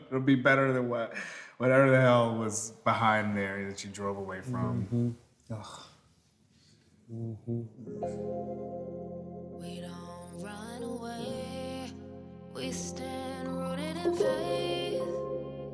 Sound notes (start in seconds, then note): 5.3 sighs; 8.2 soulful music